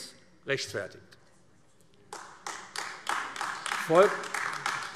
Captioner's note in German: Beifall AfD